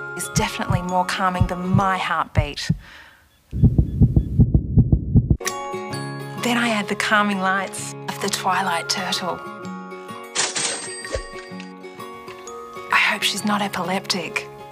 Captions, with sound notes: ..is definitely more calming than my heartbeat. (Rapid heartbeat) Then I add the calming lights of the Twilight Turtle. I hope she's not epileptic.